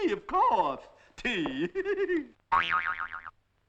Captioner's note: laughing